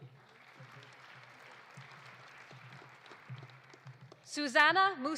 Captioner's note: audience applauding